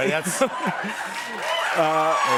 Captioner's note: cheers and applause